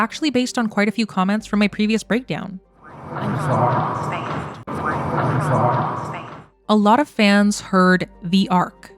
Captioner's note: voice 3 playing